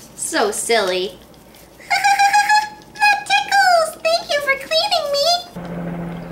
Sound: laughter

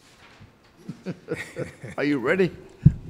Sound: laughs

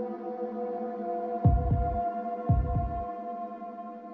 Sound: beating

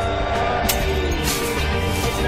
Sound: smash

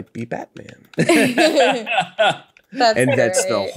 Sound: all laugh

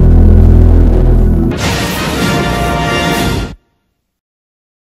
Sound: electricity zapping as rousing fanfare plays; silence

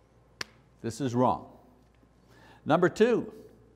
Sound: slap

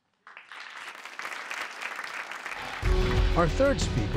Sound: audience applauds

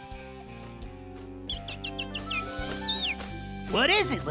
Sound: chirping

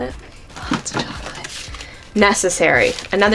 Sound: whispering

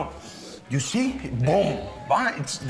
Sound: sniffs

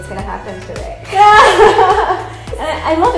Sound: both laughing

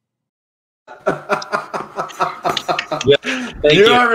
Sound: laughing

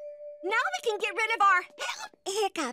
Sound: hiccups

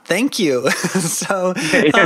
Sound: chuckling

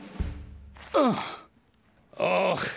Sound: groans

